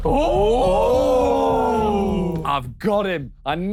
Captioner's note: dramatic music; Sidemen groan